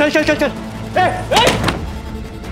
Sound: screams

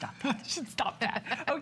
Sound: laughter

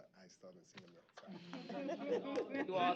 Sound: laughter

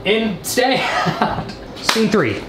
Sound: man laughing

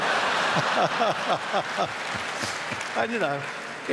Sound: laughter

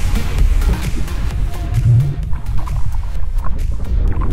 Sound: gurgling

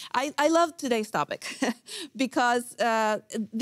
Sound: chuckles

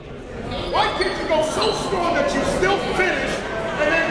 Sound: coach yelling

